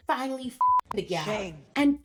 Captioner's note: beep